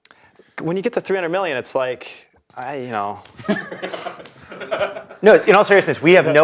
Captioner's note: laugh